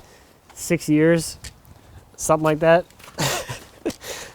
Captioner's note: laughs